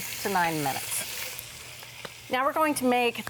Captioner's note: pot sizzling